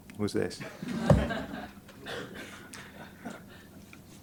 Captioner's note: laughter